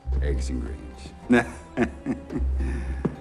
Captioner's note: chuckles